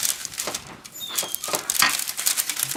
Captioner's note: paper crinkling